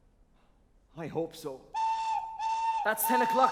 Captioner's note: train whistle